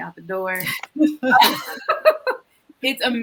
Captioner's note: all laugh